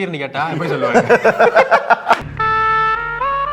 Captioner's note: laughs